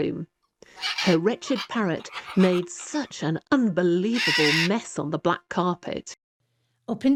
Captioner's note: squawks